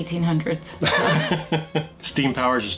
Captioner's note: laughs